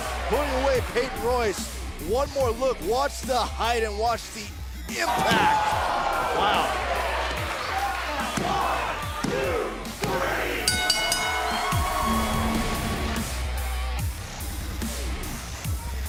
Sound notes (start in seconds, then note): 10.6 bell; 12.3 cheers & applause